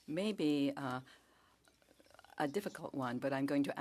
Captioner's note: speaking French